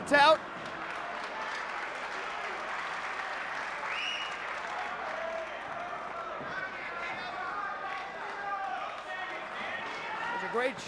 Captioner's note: applause